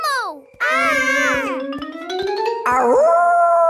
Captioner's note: kids yelling; howling